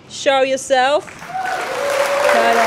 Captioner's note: applause